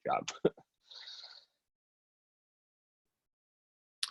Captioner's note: laughs